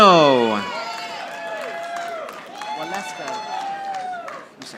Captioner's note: audience applauding